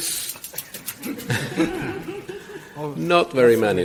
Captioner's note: audience laughs